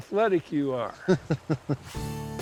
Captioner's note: laughing